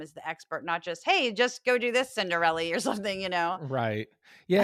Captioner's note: laugh